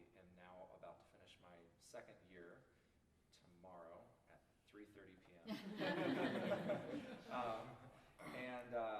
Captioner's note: laughter